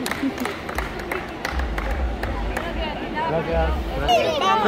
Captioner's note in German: Beifall